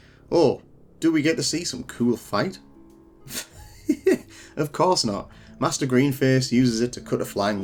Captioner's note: laughing